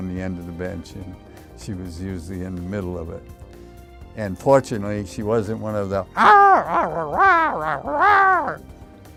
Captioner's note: yelling